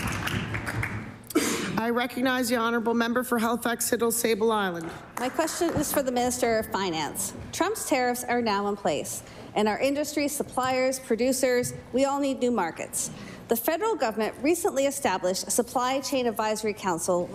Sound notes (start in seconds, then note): 5.1 applause